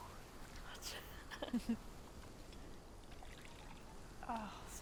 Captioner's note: both chuckling